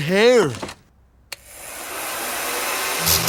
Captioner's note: whirring